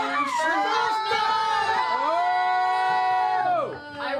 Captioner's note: yelling